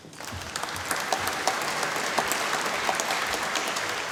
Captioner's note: applause